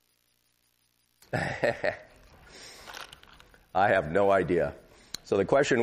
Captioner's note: chuckles